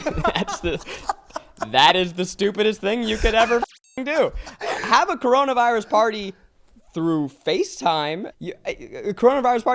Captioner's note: static